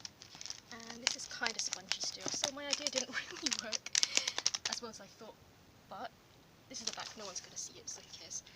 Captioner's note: laughs